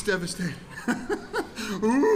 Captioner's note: laughter